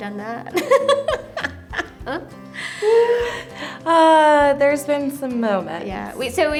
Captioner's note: laughs